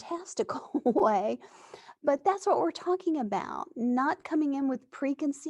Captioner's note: laughs